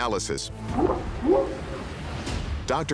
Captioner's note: whooping sound